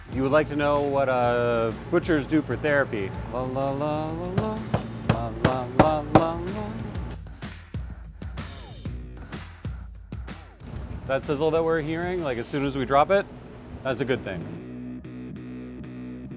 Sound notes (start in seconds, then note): 4.3 mallet pounding on cleaver; 7.1 upbeat music